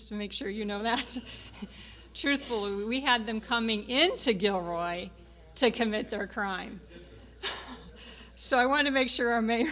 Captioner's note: laughing